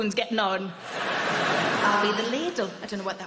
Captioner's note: crowd laughing